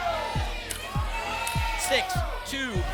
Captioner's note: audience shouting numbers